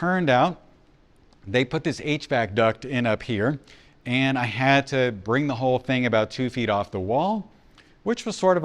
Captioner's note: hvac